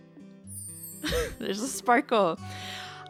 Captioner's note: laughs